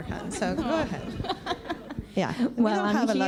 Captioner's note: laughs